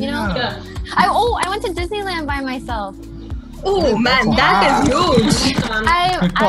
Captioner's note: everyone clapping